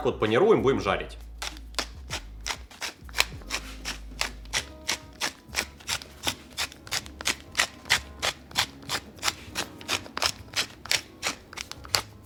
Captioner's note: peppering sounds